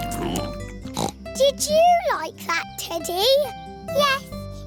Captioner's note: snorts